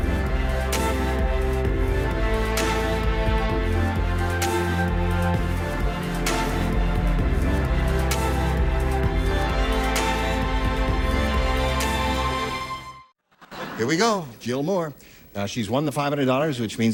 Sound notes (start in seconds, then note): none